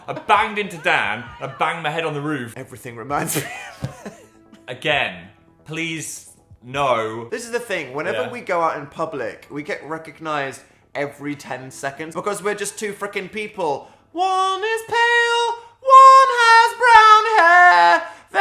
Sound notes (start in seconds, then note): 4.1 laughing